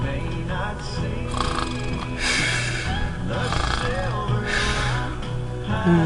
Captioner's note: haulers snoring